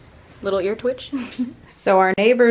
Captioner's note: laughs